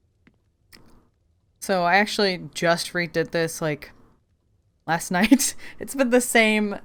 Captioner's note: laughs